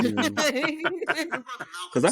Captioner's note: laughing